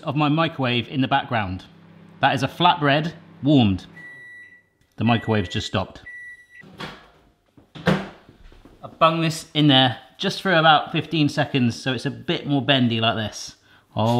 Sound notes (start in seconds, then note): 3.2 microwave beeps; 7.5 microwave door closes